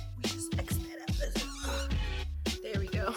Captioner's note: marker squeak